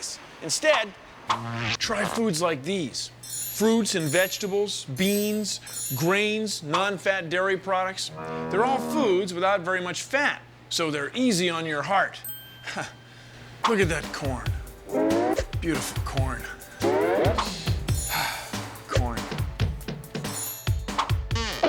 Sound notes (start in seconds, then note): 12.6 chuckles; 16.6 sighs